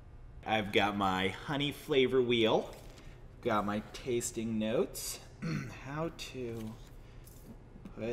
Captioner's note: clears throat